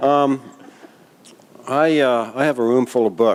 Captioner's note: laughter